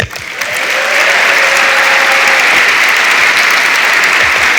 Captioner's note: audience applauds